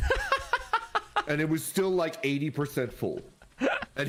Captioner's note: laughing